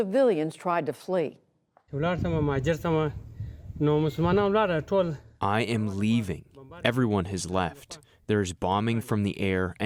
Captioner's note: through translator